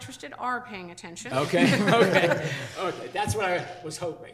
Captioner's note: all laughing